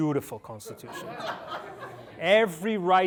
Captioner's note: laughter